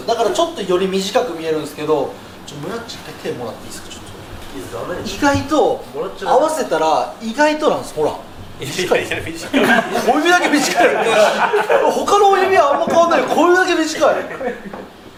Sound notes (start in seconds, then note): 11.5 laughs; 14.7 laughs